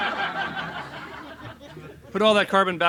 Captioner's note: laughs